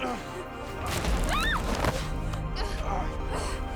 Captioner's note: yelps and grunts